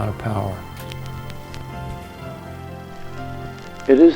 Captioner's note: projector whirring